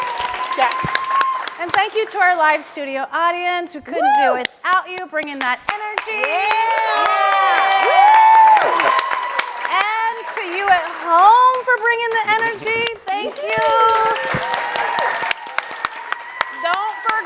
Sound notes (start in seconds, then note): 7.1 audience cheers and claps; 14.6 audience claps and cheers